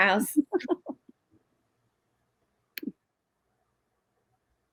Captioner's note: laughing